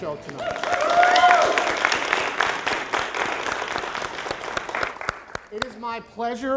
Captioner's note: applause